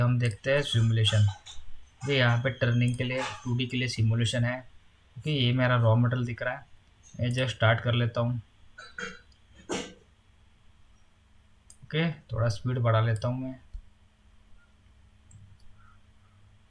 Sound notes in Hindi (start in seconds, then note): 8.7 खांसने की आवाज़